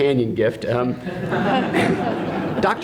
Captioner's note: laughter